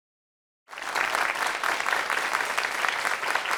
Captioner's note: applause